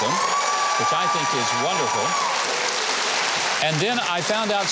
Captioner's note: audience cheering